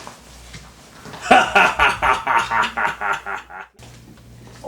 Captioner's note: laughs